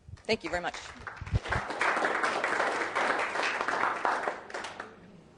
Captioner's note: audience clapping